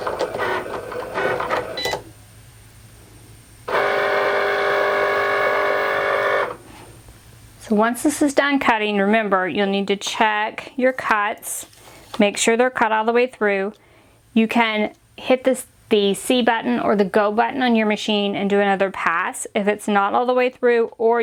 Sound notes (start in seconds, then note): 1.9 Cricut beeping